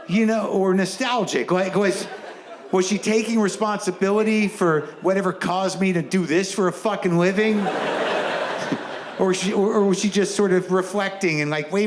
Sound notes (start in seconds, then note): 7.0 audience laughs; 7.3 chuckles